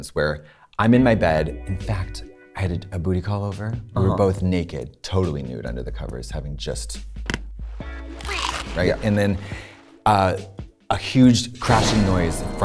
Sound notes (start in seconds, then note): 0.9 funk music; 7.8 shark munches; 11.8 suspenseful music